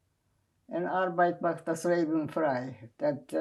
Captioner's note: german